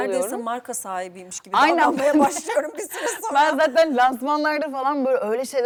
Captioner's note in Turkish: kahkaha